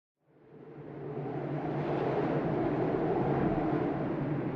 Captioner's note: wind rushing